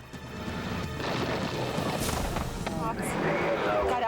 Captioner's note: explosion booming